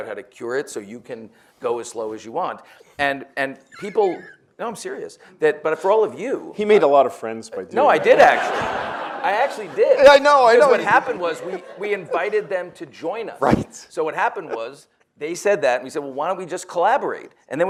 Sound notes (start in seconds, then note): 3.7 chuckles; 7.9 audience laughs